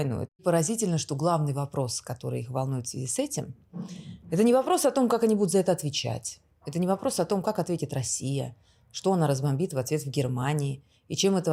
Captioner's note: speaking russian language